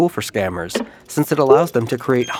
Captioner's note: button clicks; beeping, bubbles “blooping”